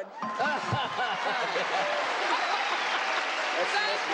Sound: applauding

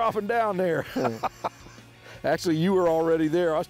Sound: laughs

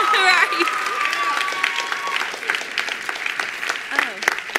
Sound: attendees applauding

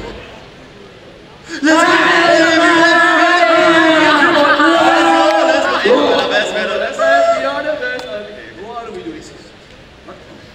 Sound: the four cheering and taunting

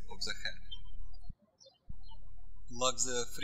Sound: birds chirping

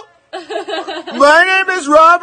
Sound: woman laughing

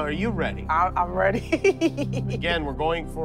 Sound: laughs

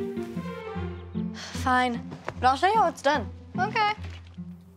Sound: sighs

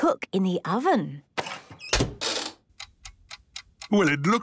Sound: dial cranking, oven ticking

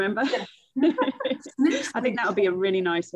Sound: chuckling

